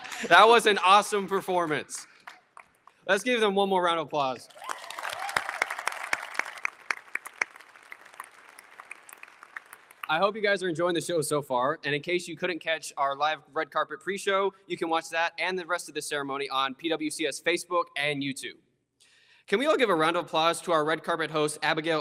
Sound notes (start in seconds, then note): 0.0 audience chuckles; 4.5 all applauding